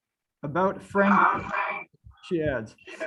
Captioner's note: mic feedback